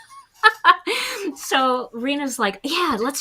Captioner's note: chuckles